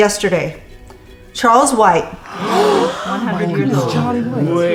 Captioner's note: group gasping